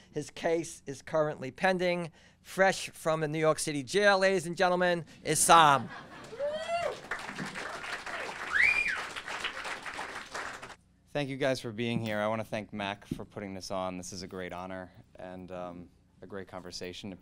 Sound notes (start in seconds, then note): 6.0 audience cheering